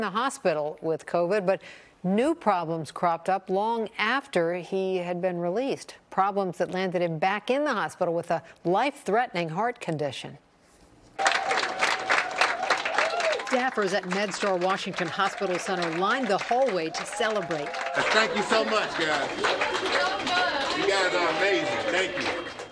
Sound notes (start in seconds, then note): 12.4 clapping